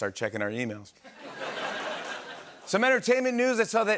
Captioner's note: laughter and applause